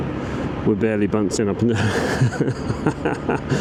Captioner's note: haha